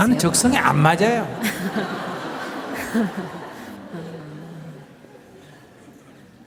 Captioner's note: questioner/Audience Laughter